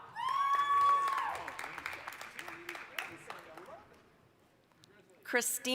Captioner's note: applause, cheering